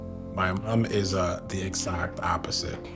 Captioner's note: none